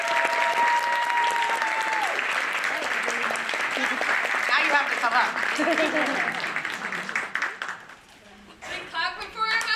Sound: applause

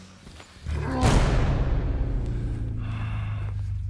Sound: man grunts

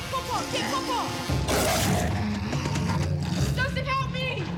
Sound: growling

